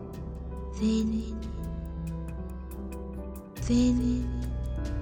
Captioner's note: A wicked voice